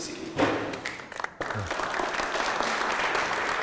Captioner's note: applause